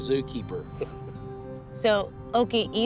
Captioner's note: laughs